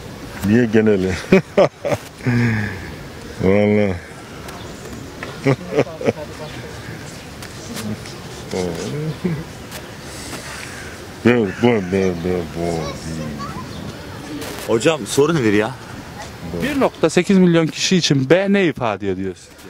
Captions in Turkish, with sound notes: - Türkiye geneli ( Gülme sesi ) - Allah ( Gülme sesi ) - B, B, B, + Hocam soru nedir ya ? + 1.8 Mn kişi için B ne ifade ediyor ?